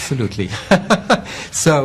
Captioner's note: laughing